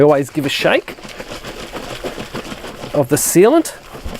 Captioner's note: liquid sloshes